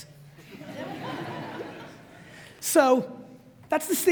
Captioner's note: audience laughs